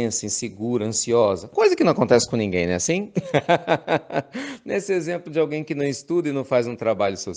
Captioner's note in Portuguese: risos